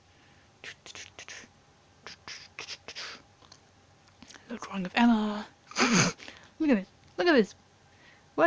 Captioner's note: snort